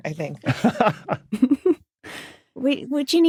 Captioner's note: laugh